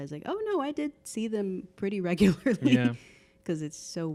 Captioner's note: laughing